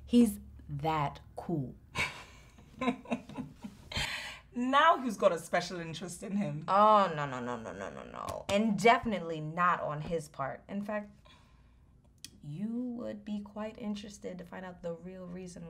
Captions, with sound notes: He's that cool. (Efosa Chuckles) Now who's got a special interest in him? Oh no, no, no... and definitely not on his part In fact, you would be quite interested to find out the real reason